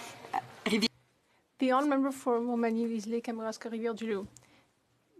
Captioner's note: speaking French